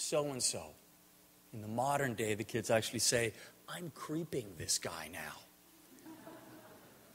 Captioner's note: audience laughter